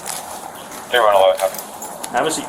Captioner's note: radio chatter